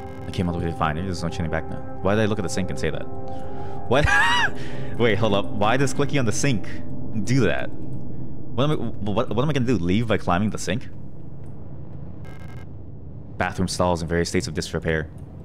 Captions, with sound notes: "I came all the way to find her, there's no turning back now." Why did I look at the sink and say that? What—*laughs* wait, hold up, why does clicking on the sink do that? What am I—wh—w—what am I gonna do, leave by climbing the sink? "Bathroom stalls in various states of disrepair."